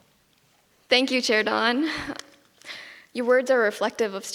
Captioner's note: giggles